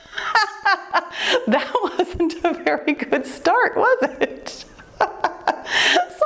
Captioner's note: laughs; laughs